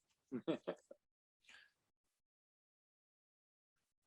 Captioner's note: chuckles